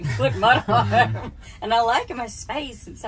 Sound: laughing

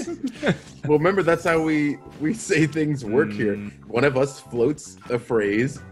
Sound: laugh

